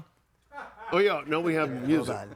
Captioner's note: audience laughing